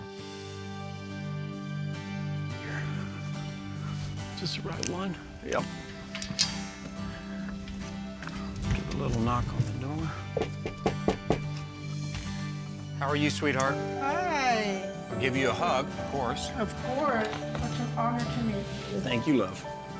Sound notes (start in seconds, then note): 10.3 knocking